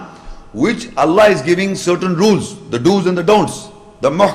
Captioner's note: Arabic